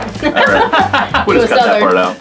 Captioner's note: laughing